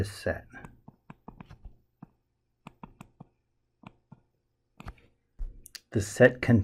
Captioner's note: tapping Sounds